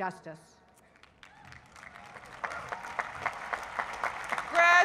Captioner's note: applause